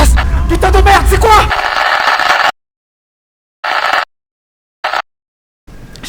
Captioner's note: tape Sound